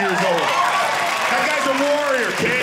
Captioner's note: audience cheering